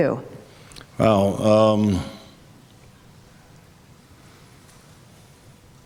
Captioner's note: long pause